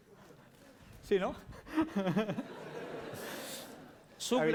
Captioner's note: non-english speech